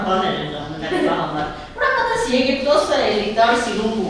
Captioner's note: laughing